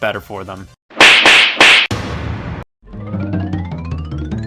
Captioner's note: slapping sound effects play; quirky sound effect plays